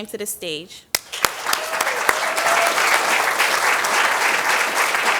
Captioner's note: applause